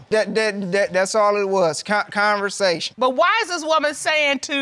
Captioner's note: stammers